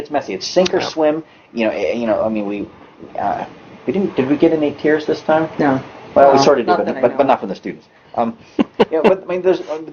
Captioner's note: talks and laughs